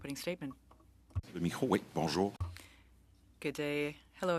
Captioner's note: speaking French